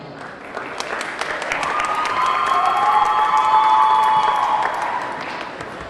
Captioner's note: audience clapping; audience cheering